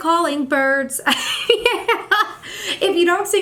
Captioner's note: laughs